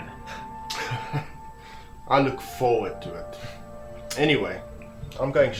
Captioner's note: chuckles